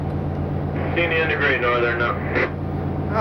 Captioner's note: intercom